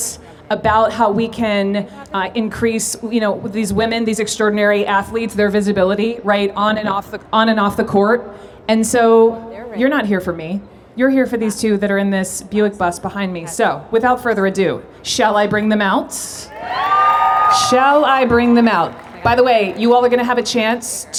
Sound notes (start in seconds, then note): 16.4 crowd cheering